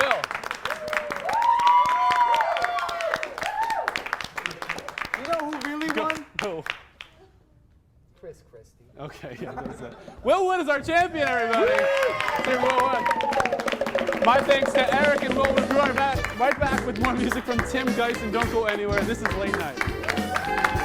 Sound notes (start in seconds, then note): 0.0 faster clapping + louder cheers; 11.3 cheering